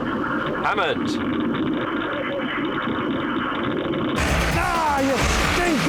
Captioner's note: Richard over the phone; crackling phone line